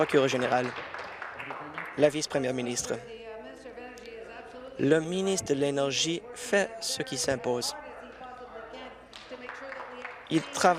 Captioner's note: applause